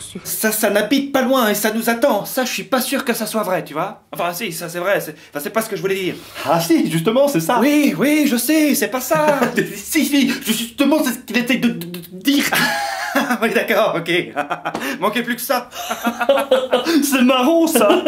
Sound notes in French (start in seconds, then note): 15.7 rires